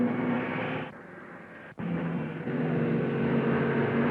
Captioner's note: cars revving